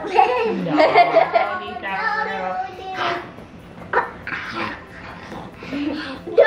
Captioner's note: overlapping talking and laughter